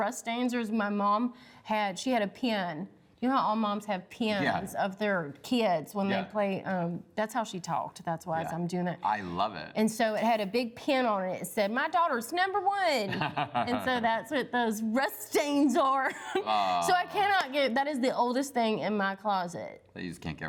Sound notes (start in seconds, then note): 13.0 laughs